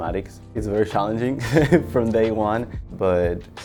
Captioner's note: laughs